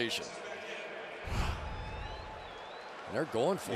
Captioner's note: pa announcement